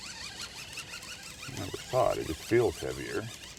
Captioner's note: fish splashing; reel cranking